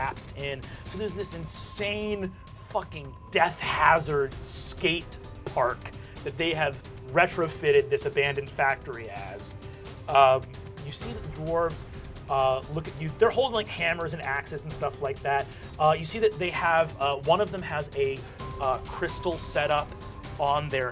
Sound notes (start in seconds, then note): none